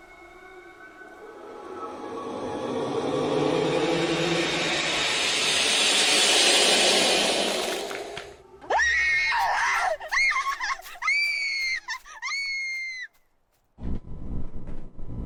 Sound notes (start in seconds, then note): 0.0 spectral hollow sound; 2.9 spectral power sound intensifies; 7.7 cracking bones noise; 8.6 Lyudmyla screams in desperation